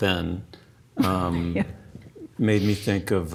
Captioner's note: laughs